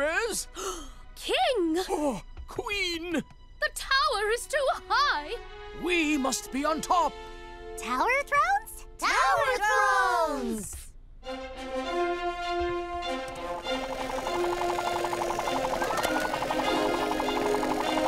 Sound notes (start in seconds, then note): 0.1 gasps; 11.2 regal music; 13.2 propellor whirring